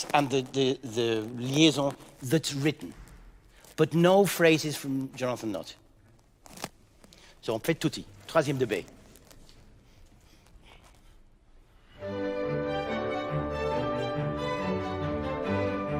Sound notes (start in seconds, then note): 7.9 speaking in French; 11.9 cheerful orchestral music